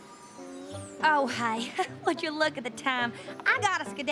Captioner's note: chuckles